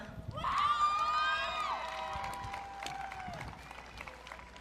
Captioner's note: audience cheering